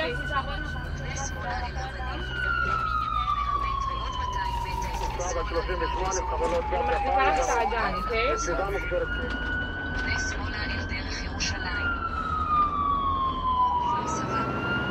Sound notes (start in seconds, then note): 0.5 medic speaking foreign language; 4.7 sirens wail